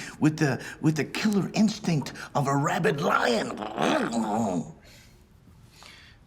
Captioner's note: growling